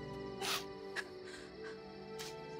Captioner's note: Sniffs